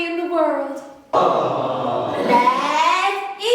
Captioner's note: audience 'Aw' Track